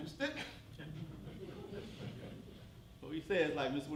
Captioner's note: laughter